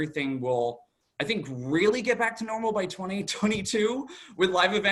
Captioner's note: chuckles